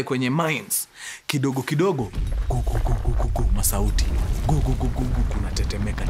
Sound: earthquake rumbling

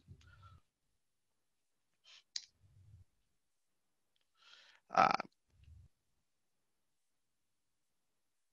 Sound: A pause

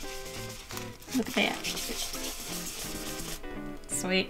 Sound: intense scrubbing

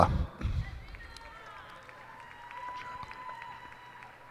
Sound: cheers and applause

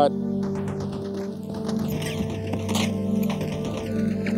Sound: gunfire rattling

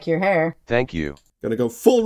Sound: computer voice

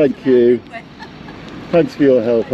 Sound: indistinct dialogue and woman laughs

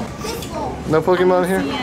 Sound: voiceover

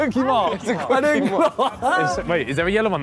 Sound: laughing

